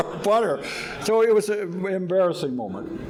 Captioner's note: audience laughing